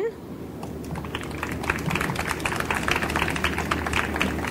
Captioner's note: audience applauds